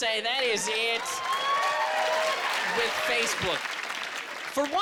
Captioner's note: audience cheering